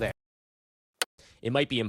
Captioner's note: click